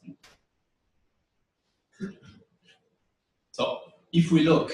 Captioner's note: pause